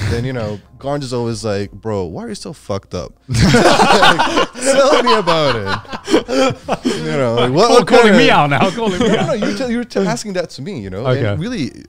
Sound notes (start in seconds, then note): 3.3 all laughing; 6.8 group chattering